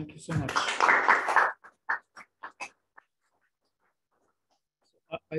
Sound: applause

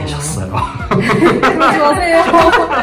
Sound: laugh

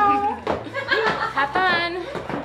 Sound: laughs

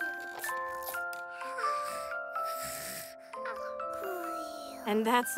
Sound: soft music playing; snoring

